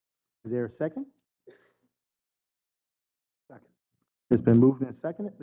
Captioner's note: cough